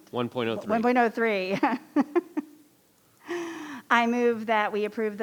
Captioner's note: laughing